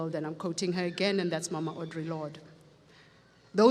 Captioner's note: none